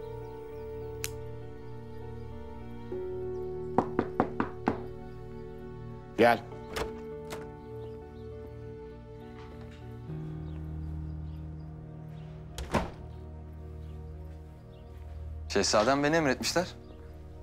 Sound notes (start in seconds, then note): 3.7 door knocking sound; 12.5 the door closing sound